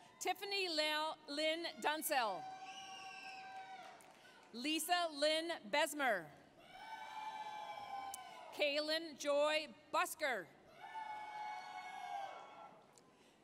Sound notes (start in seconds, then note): 2.4 applause, cheering; 6.4 applause, cheering; 10.8 applause, cheering